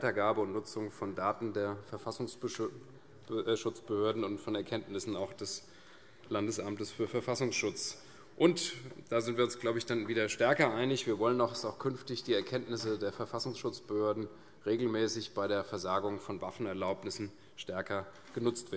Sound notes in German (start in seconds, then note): none